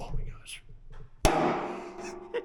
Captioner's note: cyclone thuds; laughing